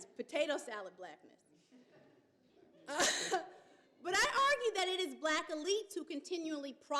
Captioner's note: laughs